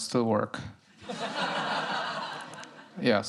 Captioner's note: laughter